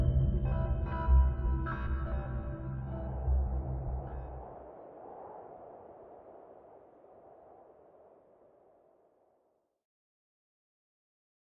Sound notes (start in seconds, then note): 0.1 wind blowing